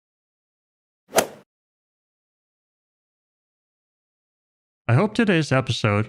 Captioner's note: golf ball hit sound effect